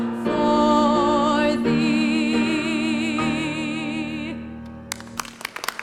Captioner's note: applause